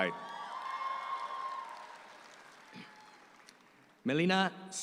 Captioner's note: audience applauds